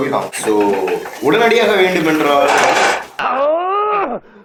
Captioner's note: loud thud